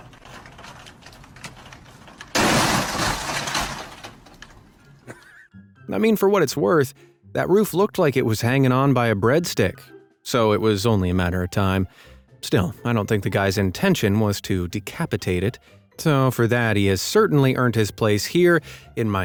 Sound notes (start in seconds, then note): 2.4 ice bangs